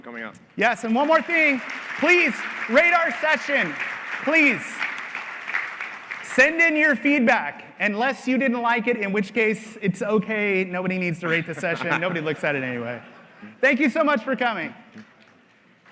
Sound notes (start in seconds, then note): 7.3 applause